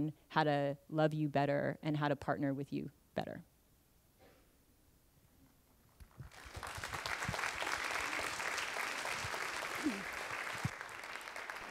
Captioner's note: applause